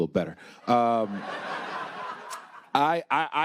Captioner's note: attendees laughing